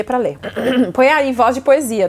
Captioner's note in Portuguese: pigarro